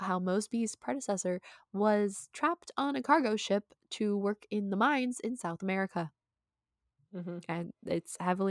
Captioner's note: mhmm